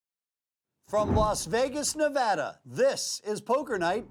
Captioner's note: voiceover